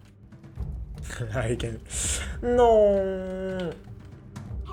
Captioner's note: chuckles